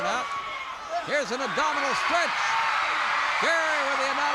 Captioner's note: crowd cheers